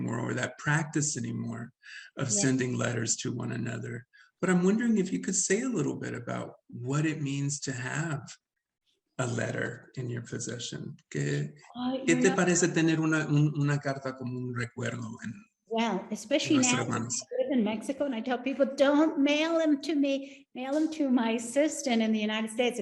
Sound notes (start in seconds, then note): 11.2 speaking Spanish; 16.2 speaking Spanish